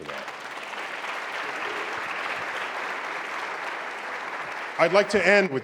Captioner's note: applause